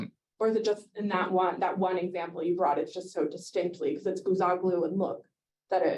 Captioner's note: Hebrew